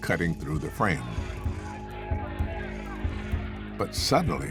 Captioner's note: indistinct chatter, shouting